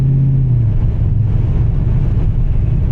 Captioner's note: engine revving